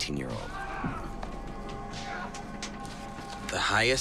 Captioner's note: shouts of pain continue in the distance